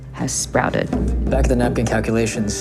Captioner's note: soundbite of tv show, "pachinko"